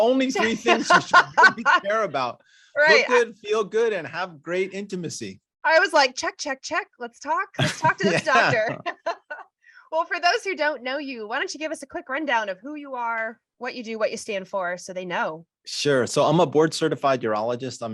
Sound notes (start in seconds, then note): 0.0 laughter; 7.6 laughter